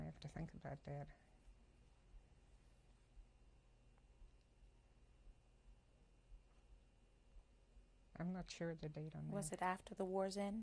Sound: pauses for 7 seconds

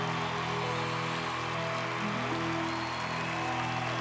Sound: cheers and applause continue

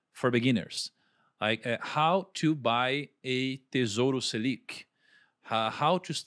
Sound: foreign language

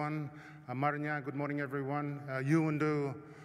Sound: non-english speech

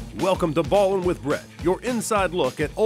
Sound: voiceover

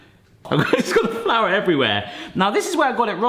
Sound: laughs

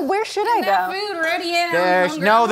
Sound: Georgian

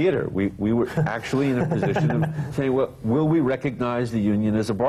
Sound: laughter

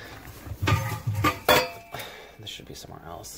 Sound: clanging metal lid

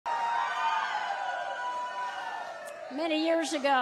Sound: audience cheering

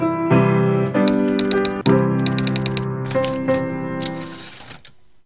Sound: typewriter keys and chime

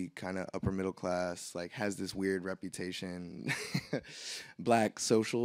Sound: laughs

